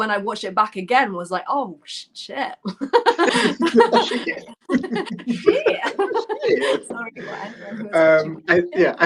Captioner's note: laughter